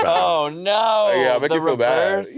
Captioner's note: laughing